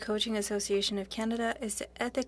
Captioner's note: speaking French